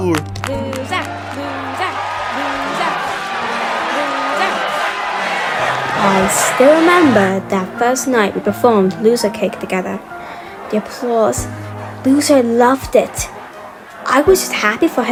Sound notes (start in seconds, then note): 0.5 crowd chanting; 7.8 narrating